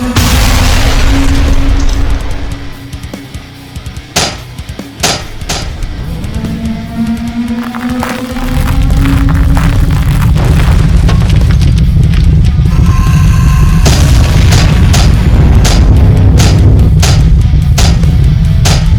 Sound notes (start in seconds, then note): 0.1 ground crashes; 2.6 intense rock music; 4.2 steps clanking; 6.4 tentacle beast blares; 7.6 rocks clattering; 7.8 ground rumbling; 12.7 scorpion beast shrieks; 13.8 ground crashing; 13.8 steps clanking